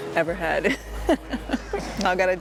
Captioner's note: laughs